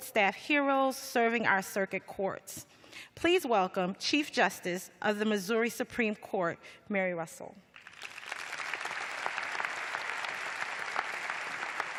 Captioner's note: applause